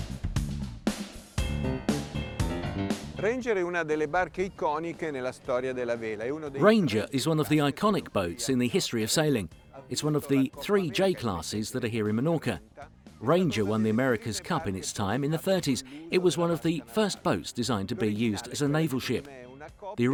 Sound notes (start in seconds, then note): 3.3 speaking foreign language